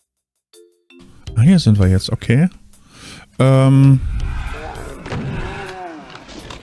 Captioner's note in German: stöhnen